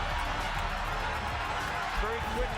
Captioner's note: crowds cheering